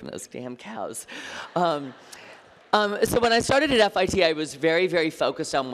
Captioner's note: laughter